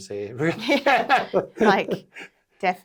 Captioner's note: both laughs